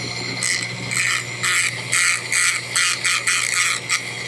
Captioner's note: sander grinding